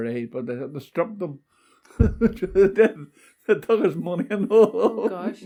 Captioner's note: laughs